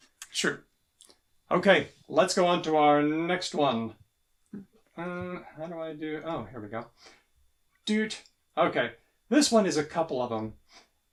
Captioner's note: beeps